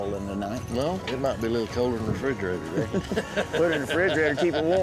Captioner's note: laughter